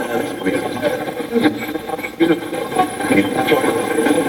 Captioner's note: Steve's Box chatters